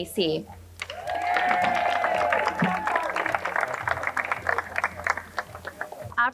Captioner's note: crowd cheering and applauding